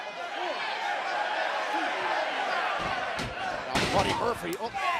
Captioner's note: cheers and applause